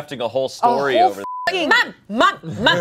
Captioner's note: beep